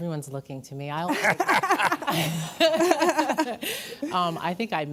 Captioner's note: laughing